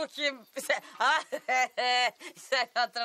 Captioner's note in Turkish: Gülme sesi